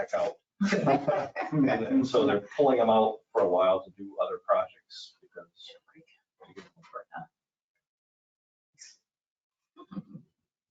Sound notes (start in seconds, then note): 3.4 people chuckling; 7.9 speaking faintly